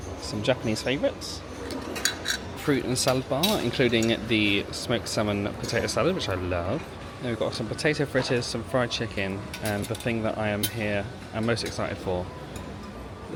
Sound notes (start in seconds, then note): none